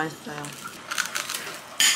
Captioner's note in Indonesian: Crunch